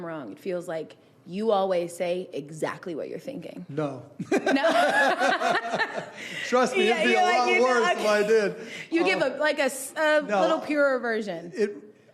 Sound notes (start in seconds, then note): 4.2 laughing